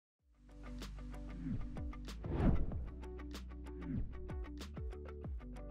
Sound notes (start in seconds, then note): 0.2 air whooshes; 0.2 happy pop music